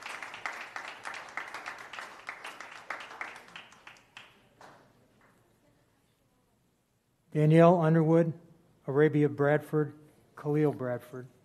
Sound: applause

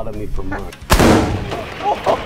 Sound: gunshot

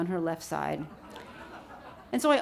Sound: audience laughs

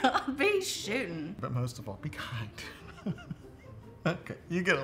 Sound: laughs

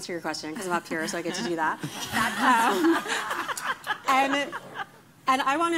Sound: laughing

